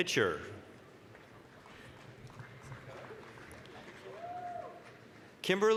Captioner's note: applause